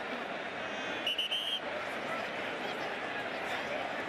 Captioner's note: whistle